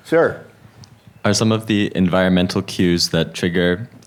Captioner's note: voiceover